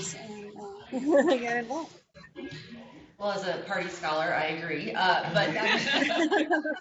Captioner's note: laughter